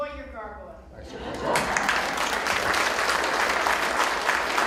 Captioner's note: applause